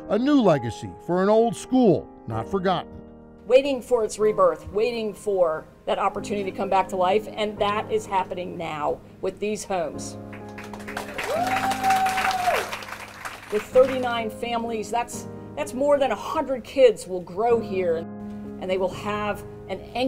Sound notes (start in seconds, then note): 10.3 crowd applauding